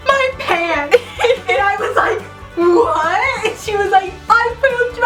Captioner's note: laughing